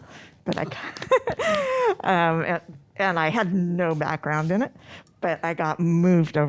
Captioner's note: laughs